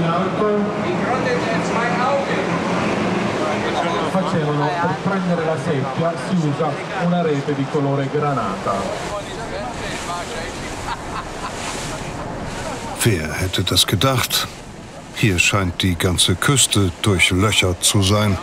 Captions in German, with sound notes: Die Grotte der zwei Augen! (Lautes Rauschen, Tourguide spricht italienisch.) Wer hätte das gedacht? Hier scheint die ganze Küste durchlöchert zu sein.